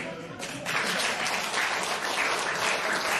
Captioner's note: applause